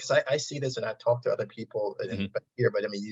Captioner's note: audio distortion